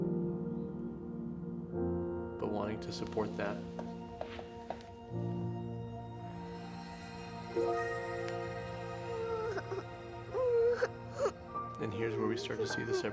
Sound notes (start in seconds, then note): 6.1 audio chimes; 9.0 Bingo cries